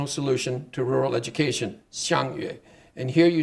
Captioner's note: speaking Chinese